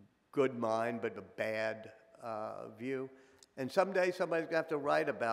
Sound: none

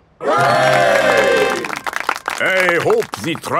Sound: clapping

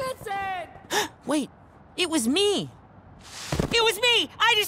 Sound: gasps

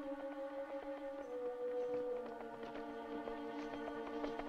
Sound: horses approaching

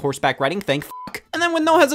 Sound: beep

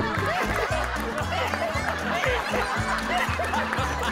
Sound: giggling

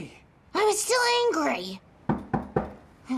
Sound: knock at the door

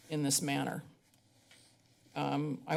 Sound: pause

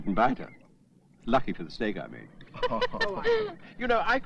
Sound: laughing

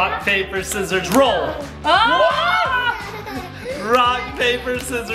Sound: dad and mom screaming; laughing

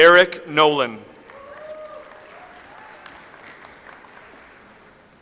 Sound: audience applauds

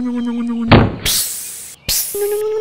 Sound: electric motor hum; thud; hiss

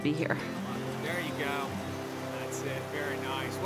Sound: fishermen talking; music fades

